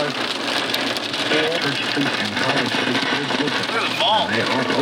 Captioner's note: radio crackling